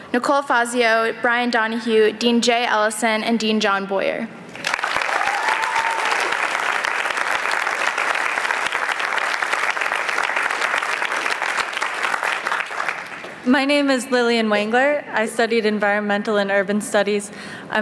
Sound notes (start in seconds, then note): 4.8 applause